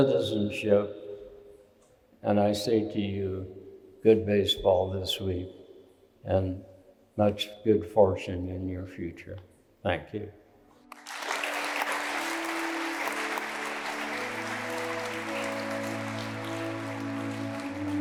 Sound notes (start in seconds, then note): 10.8 applause; 15.3 gentle music